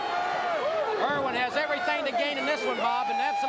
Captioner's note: crowd cheering